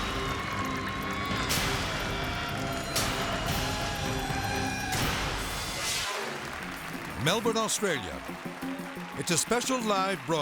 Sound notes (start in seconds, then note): 5.5 graphics booming; 6.6 audience claps and cheers; 8.9 upbeat music